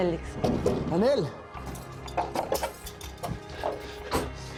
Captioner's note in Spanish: Ruidos en el picaporte